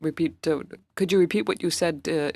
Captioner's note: speaking French